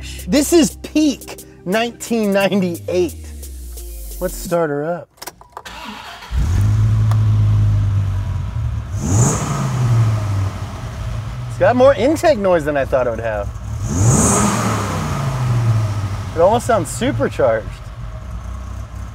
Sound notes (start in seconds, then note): 5.9 car engine starting; 9.2 car revving